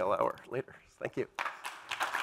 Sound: applause

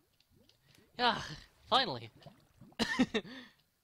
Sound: sigh

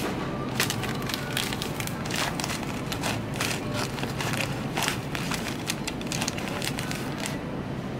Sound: rustling of packaging

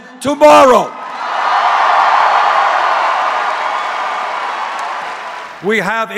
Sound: applause

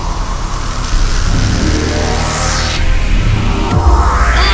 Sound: crackling electricity

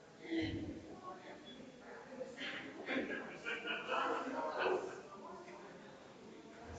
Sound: people chattering distantly continues

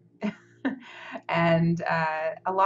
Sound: laughs

